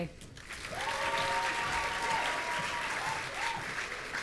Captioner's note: audience cheering